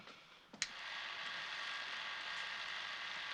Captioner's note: switch Clicks